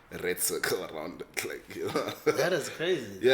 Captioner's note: laighs